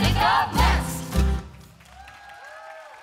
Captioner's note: applause